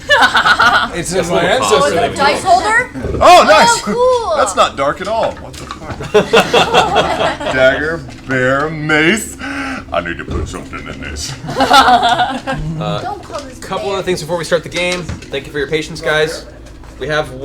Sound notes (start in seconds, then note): 5.2 mutters; 5.9 laughter